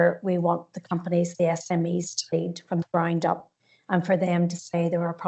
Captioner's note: audio distorts 41.28